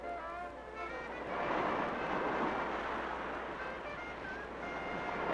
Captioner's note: waves crashing